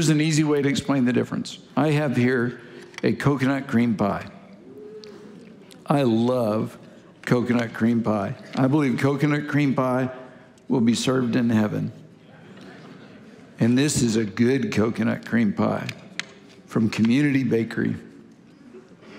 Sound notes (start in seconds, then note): 4.6 congregation gasping; 13.5 congregation affirming